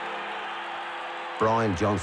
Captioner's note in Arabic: الجمهور يصرخ